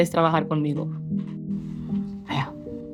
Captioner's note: speaking in Spanish